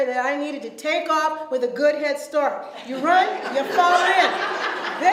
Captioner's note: audience laughs